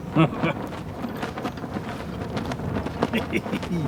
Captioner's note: chuckles